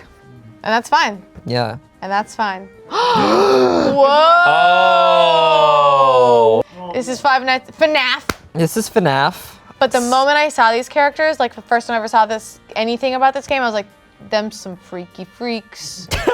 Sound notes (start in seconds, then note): 2.9 all gasp; 2.9 all exclaim